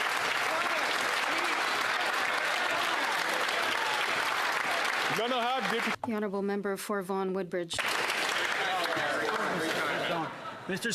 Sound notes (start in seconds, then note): 4.6 some Applause